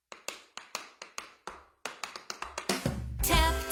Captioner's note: tapping